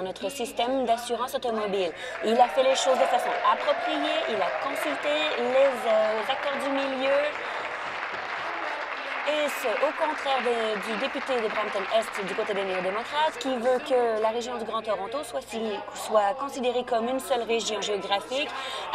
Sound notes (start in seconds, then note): 7.2 applause